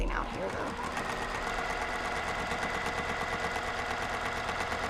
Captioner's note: sewing machine roaring